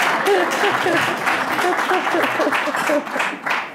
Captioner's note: laughing